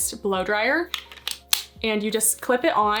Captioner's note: attachment clicking